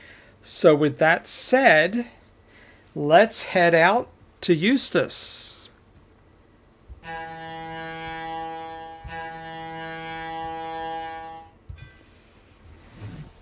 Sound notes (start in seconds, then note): 7.0 train whistle